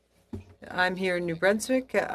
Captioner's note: speaking in French